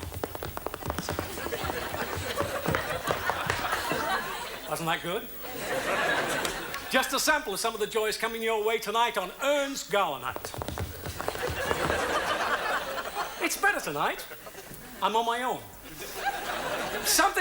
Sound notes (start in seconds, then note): 0.0 feet tap; 0.8 audience laughs; 10.8 feet tap; 11.0 audience laughs